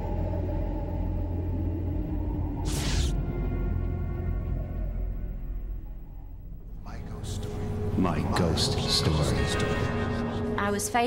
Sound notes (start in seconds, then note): 6.1 collective voices